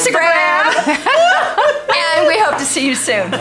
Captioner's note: laughs